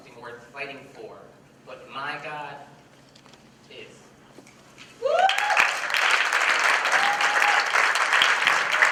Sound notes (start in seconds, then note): 5.1 applause